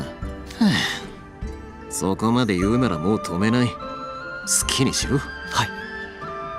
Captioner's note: sigh